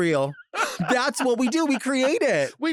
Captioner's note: laughing